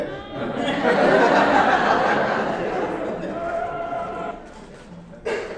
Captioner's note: audience laughing